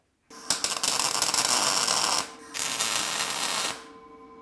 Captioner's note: metal sizzling